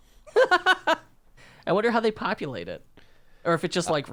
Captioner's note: laughing